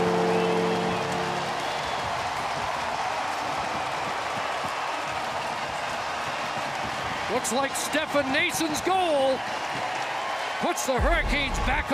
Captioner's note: horn Sounding; cheering and Applause